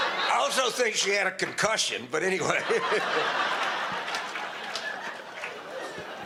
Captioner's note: audience laughter; audience laughter